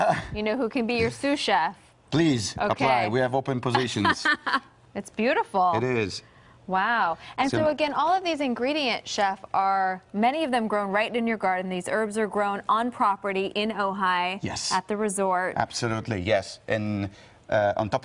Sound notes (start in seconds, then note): 3.8 laughter